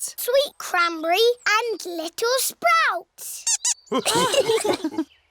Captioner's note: squeaks; laughter